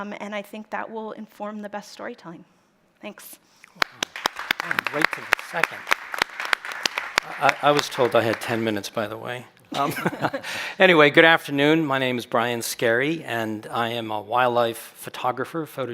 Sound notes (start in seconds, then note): 3.7 applause; 12.5 chuckles